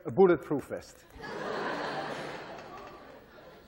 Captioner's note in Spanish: clase se ríe